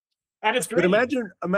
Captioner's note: laughing